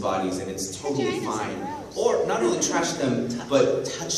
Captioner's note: mocking